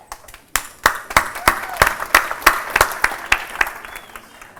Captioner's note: applause